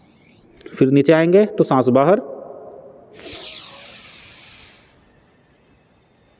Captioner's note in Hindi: नाक से की जाने वाली आवाज़